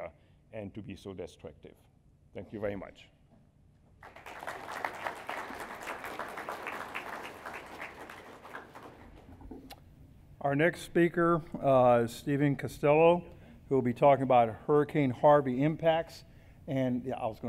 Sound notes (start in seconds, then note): 4.0 applause